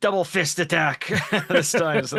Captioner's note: laughing